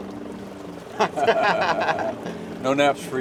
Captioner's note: laughter